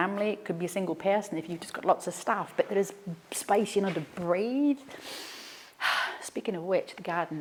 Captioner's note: inhales